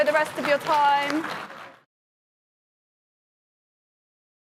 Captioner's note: applause